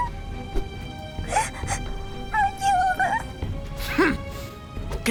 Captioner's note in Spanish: Entre lágrimas